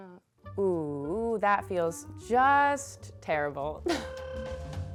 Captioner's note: laughs